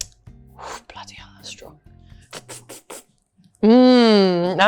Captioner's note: slurping